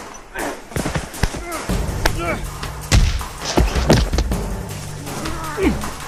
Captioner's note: dramatic music; fighting sounds